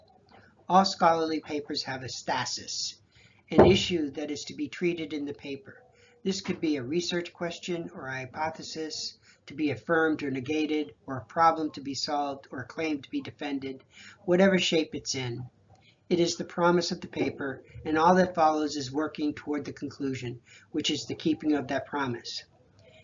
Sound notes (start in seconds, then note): none